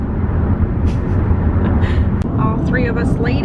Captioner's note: laughing